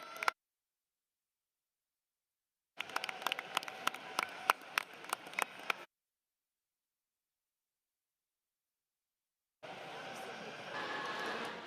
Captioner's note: applause